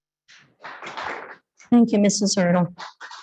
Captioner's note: attendees clapping